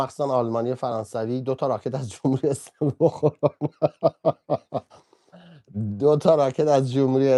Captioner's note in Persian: خنده